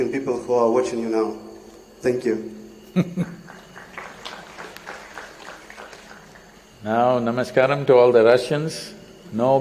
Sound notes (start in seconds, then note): 2.9 Sadhguru Laughs; 3.6 applause